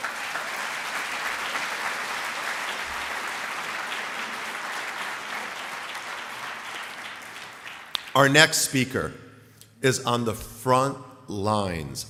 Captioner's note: applause